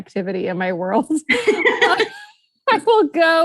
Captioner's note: both laughing